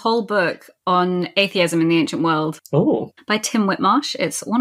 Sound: laughs

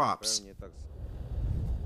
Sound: speaking Foreign Language

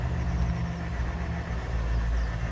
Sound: birds chirping

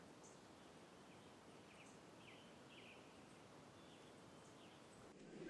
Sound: birds chirping

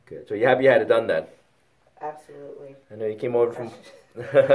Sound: laughs

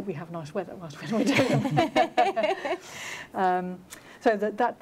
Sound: laughter

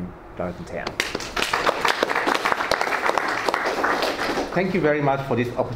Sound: all applauding

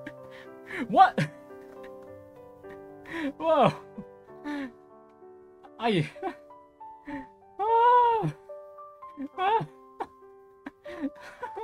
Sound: happy Exhaustion Noises

